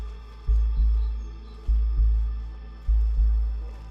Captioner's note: birds chirping